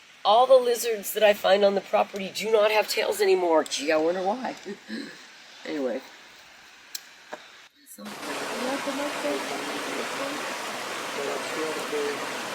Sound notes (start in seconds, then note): 8.0 water running